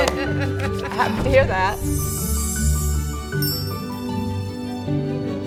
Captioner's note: bells chiming